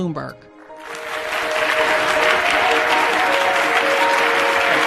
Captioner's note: audience applauding